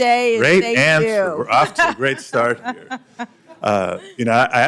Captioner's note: laughter